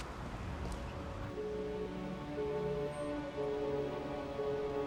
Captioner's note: melancholic music; dial tone